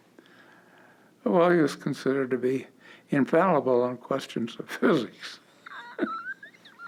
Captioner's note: chuckle